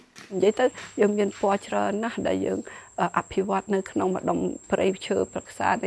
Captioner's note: speaking foreign language